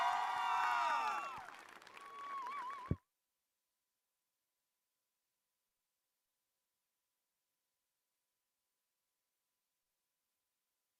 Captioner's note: applause